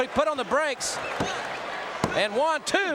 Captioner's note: hand thudding